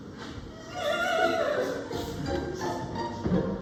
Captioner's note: sobbing